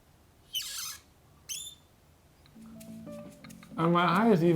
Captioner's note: glasses squeaking